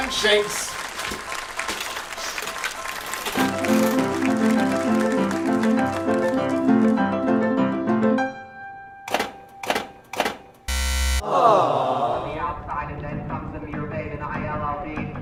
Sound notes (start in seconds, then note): 10.7 buzzer... a disapointed audience says, "aww"; 13.7 recorded sound of a horse race announcer